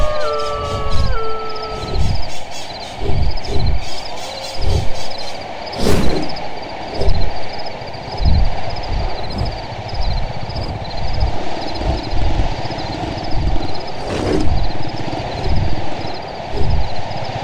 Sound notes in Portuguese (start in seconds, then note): 0.1 Bater de grandes asas; 6.1 Vento forte; 8.3 Grilos cantam; 10.4 Rosnado grave; 13.6 Asas batendo